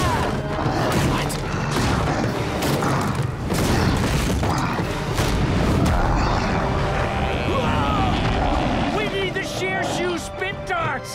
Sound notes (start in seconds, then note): 1.3 grunting